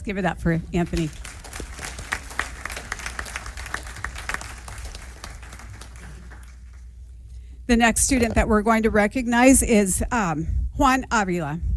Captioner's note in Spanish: aplausos